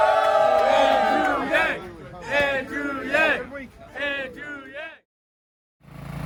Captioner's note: cheering